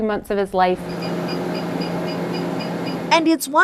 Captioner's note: machine beeping